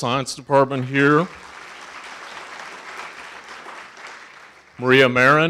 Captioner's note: audience applauding